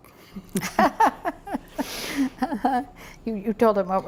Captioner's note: laughs